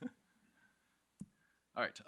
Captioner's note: chuckles